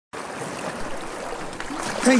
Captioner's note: sea noises